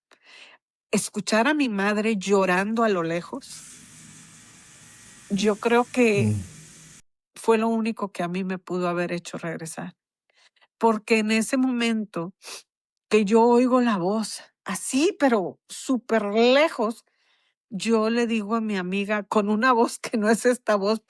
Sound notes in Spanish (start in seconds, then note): 12.2 resoplido